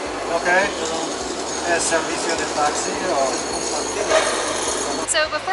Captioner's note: speaking Spanish